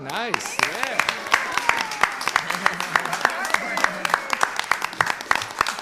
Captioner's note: all applaud